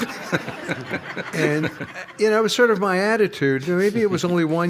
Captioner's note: laughter